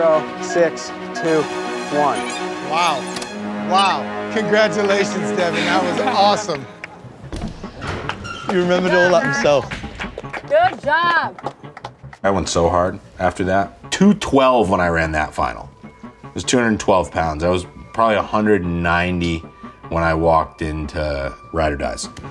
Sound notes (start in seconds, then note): 9.2 contestants clapping